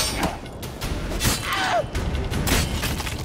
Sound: scream

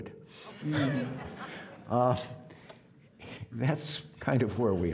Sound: audience laughing

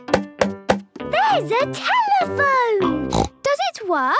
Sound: snorts

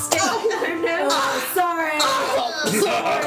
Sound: all laugh; thppp

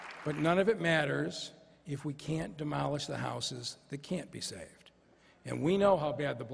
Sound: applause

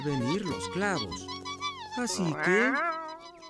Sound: squeaking

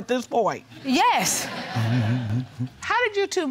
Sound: audience laughing

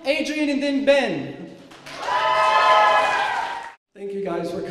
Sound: cheers

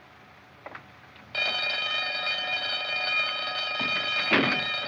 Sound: ringing Resumes

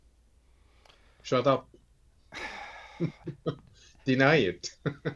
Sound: chuckles; sighs; laughs

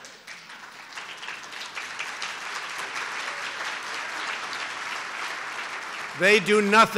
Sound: laughter and applause

